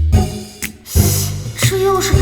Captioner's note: hiss